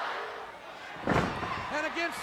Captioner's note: body thuds